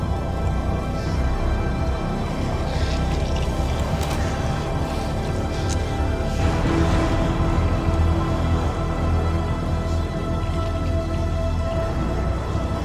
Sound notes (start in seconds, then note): 2.0 ooze squelching